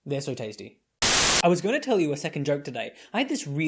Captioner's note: static